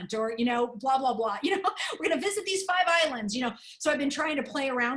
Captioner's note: laughter